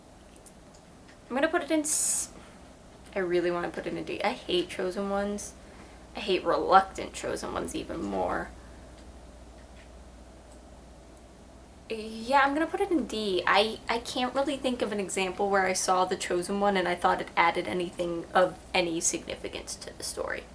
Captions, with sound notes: I'm gonna put it in C-- I really want to put it in D. I hate Chosen Ones. I hate reluctant Chosen Ones even more. [long pause] Yeah, I'm gonna put it in D. I can't really think of an example where I saw the Chosen One, and I thought it adding anything of any significance to the story.